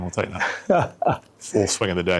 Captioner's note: laughs